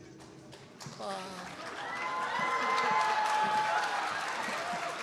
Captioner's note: applause